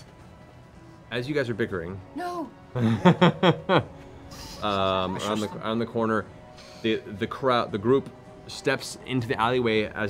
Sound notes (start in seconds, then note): 2.7 laughter